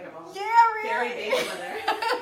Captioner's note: laughing